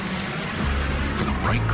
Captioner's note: plane engine roars